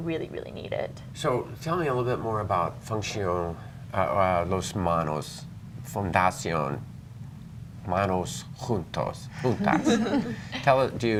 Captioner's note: laughter